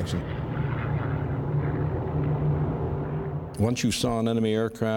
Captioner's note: plane engines rumbling